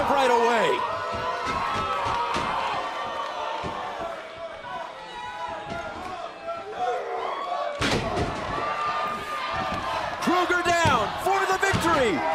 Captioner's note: crowd cheering